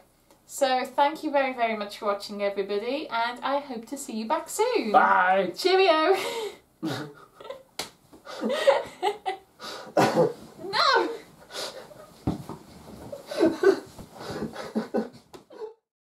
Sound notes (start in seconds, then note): 8.3 laughter; 12.0 pillow bashing sounds